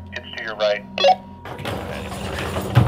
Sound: walkie beeps; door rasps and thuds

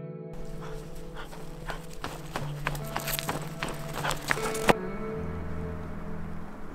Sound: gentle music; dog panting; footsteps thudding

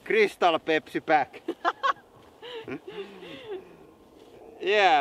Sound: both: laughing

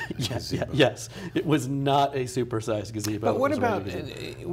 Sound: laughs

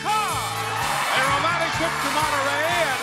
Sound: audience cheering

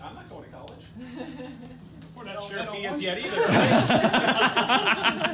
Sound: laughter

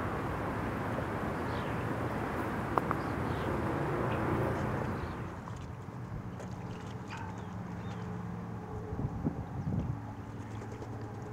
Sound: sounds of flies buzzing and birds chirping

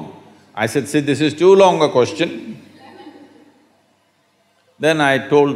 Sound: few laugh

